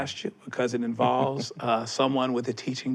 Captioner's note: chuckles